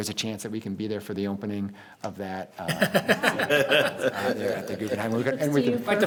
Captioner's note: people laughing